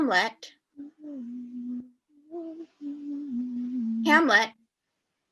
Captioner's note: continues humming